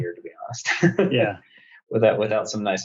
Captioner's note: laughs